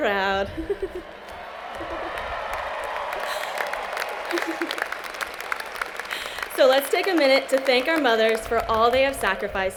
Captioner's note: cheers and Applause